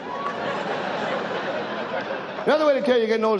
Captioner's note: audience laughs